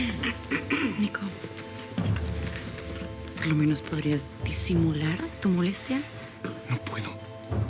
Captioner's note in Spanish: Carraspea